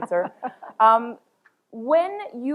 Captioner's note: chuckles